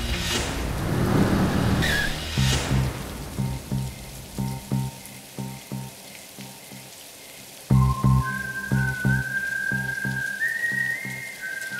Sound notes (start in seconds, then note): 0.7 bike screeches; 7.7 eerie music playing